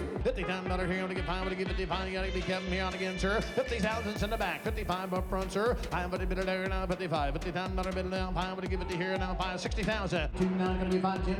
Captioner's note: auctioneer's chant